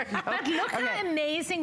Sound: laughter

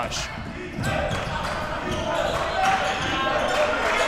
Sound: crowd cheering

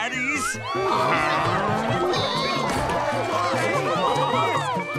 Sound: chattering

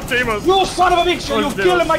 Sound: normal screams; in an Italian accent

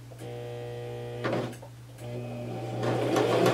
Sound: sewing machine

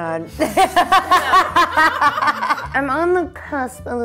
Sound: laughing

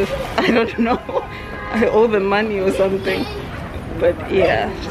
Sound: laughing

